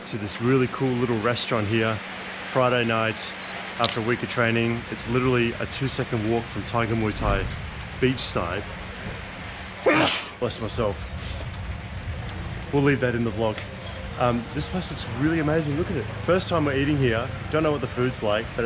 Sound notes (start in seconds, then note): 9.8 sneezing